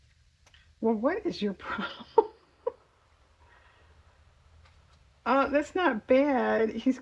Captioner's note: laughs